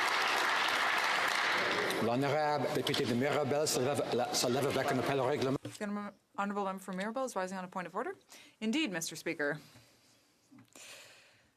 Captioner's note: applause